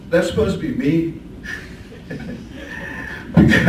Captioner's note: chuckles